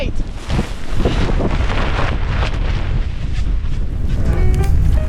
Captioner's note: wind